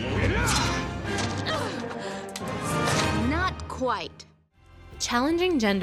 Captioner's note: Mulan grunts, inhales